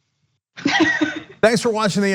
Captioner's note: laugh